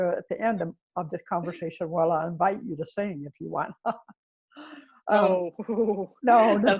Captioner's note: laughs